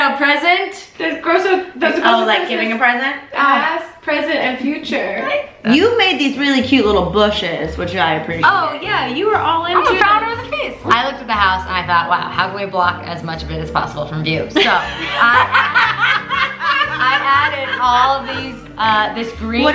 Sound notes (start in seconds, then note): 14.6 laughs